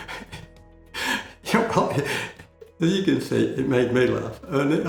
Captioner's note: laughing